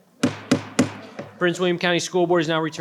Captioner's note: participant strikes the gavel